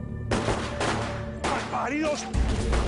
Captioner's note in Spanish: Disparos